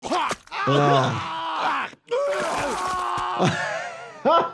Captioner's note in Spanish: Stewie gruñe; el doctor se ríe